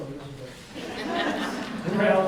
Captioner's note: audience laughs